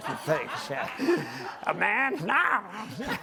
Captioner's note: group laughter